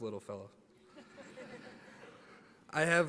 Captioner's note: audience laughing